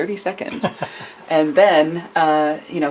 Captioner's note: laughter